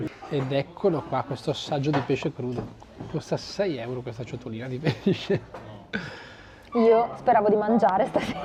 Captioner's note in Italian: risate